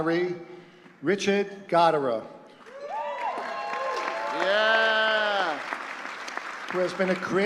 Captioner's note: applause